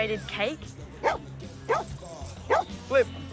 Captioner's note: dog barks